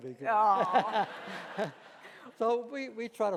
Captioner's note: laughing